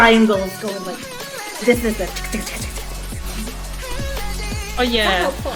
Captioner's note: tchkthckthck